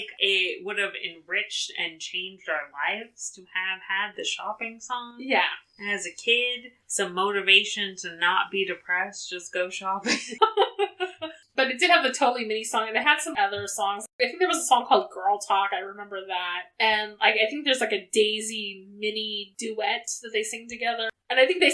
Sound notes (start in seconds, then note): 10.1 laughs